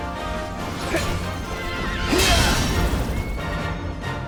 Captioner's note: battle grunts